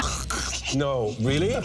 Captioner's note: gagging